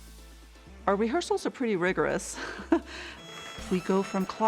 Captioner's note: upbeat music; chuckles